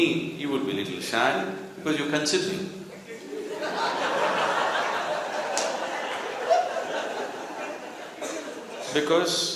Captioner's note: laughter